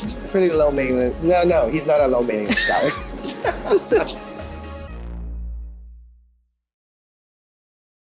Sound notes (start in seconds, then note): 2.4 laughs